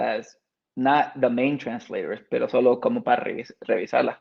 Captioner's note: speaks Spanish